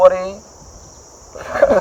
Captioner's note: chuckles